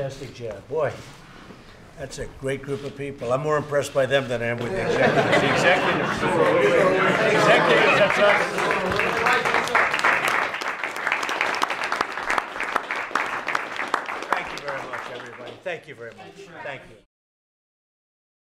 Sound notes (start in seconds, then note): 6.2 applause